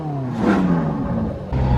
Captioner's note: vrrrrRRRROOOOOOOM!